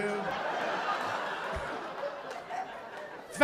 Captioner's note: laughter